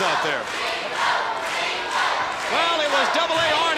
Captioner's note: crowd cheering